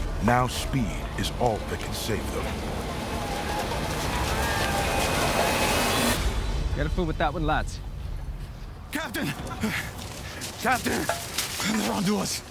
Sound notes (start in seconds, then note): 3.0 running footsteps; 3.0 war cries